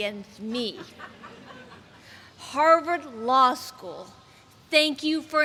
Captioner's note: laughter